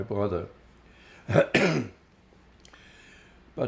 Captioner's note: clears throat